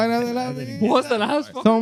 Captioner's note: speaking Spanish